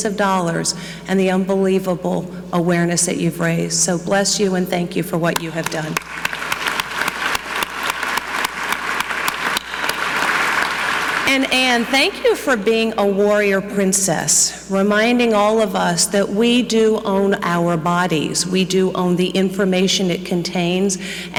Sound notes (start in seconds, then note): 5.6 clapping; 5.6 audience clapping